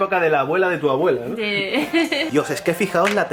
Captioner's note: giggles